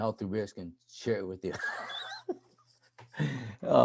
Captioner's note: laughing